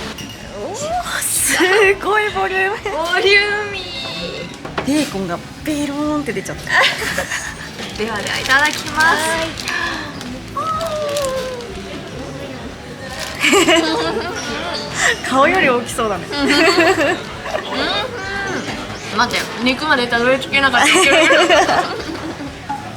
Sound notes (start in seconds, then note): 6.6 laughs; 17.0 laughs; 20.7 laughs